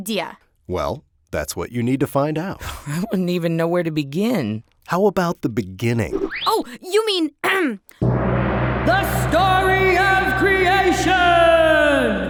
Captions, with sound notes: - [Voiceover] Well, that's what you need to find out. - I don't even know where to begin. - [Voiceover] How about the beginning? - Oh, you mean... The story of Creation!